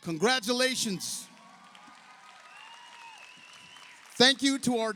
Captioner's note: audience cheers; audience applauds